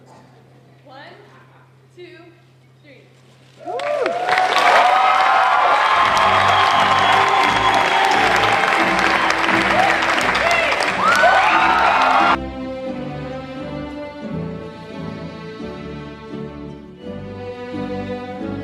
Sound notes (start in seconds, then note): 3.6 applause